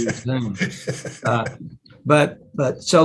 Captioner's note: laughs